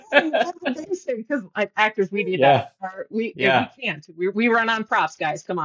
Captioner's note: laughing